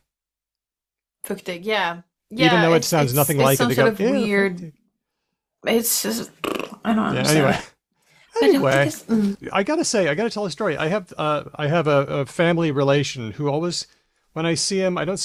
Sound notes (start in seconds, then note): 6.3 blows a raspberry